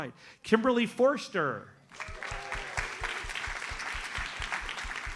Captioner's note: audience applauds